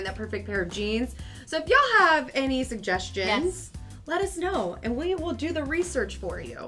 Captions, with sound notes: that perfect pair of jeans. (air whooshing) (upbeat music)